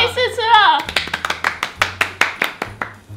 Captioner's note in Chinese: 拍手